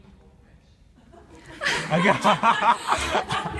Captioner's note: laughs